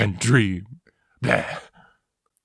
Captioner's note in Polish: bLeH